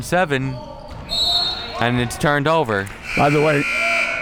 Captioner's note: buzzer sounding; whistle blowing